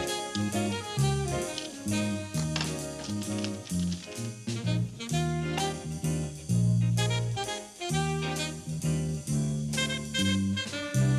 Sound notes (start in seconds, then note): 1.3 scissors click; 2.3 paper rustles; 6.3 bright mellow music continues